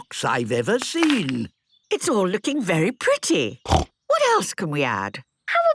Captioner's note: snorting